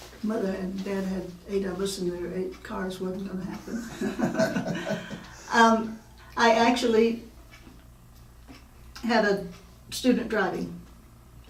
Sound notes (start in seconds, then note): 3.6 laughing